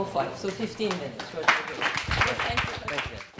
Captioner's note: applause